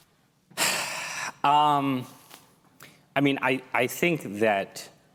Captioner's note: sigh